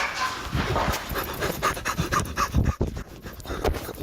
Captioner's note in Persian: صدای نفس‌نفس زدن